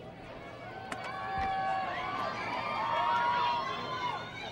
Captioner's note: crowd cheers